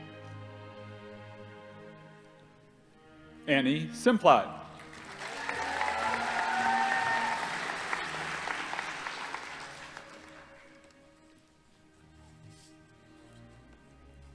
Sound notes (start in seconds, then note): 4.7 audience applauding; 4.8 crowd cheering